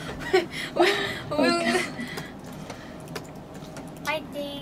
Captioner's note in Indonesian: tertawa